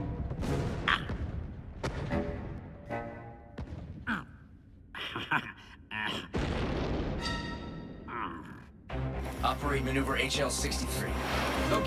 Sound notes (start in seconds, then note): 5.0 nervous laughter